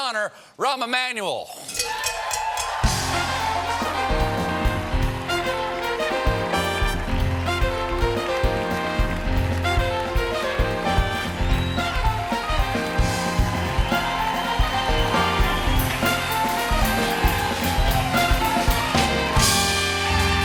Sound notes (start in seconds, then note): 3.8 applause